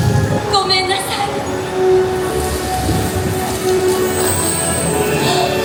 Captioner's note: character speaking Japanese